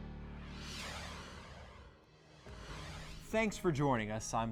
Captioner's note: air whooshing